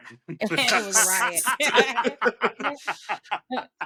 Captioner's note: laughing